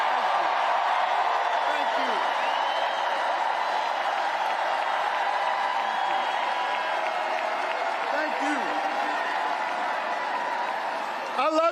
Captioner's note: cheering and applause